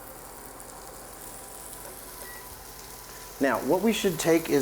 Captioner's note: steak sizzling